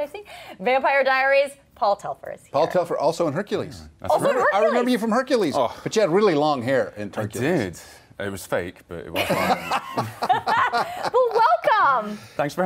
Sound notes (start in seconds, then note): 9.1 laughter